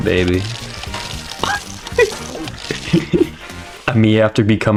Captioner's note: wheezing air